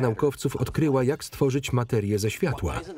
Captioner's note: laughs